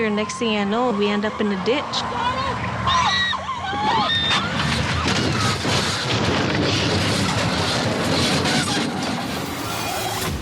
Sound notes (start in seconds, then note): 2.7 tires screeching; 2.8 screaming; 4.0 car crashing